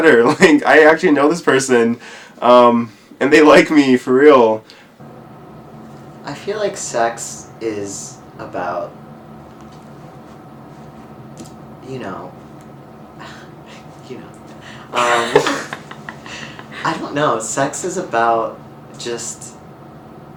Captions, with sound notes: like, I actually know this person um, and they like me for real. I feel like sex is about... you know— (chuckles) you know. (laughter) I don't know, sex is about just